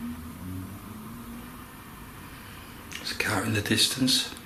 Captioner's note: car engine rumbling